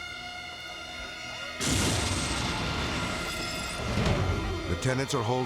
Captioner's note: bomb exploding